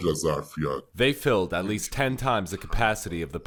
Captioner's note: through translator